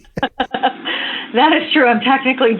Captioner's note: laughter